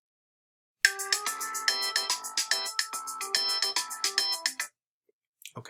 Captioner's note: cheerful timer tone